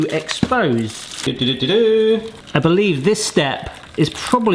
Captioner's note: mimics trumpeting